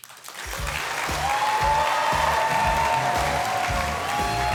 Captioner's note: audience cheering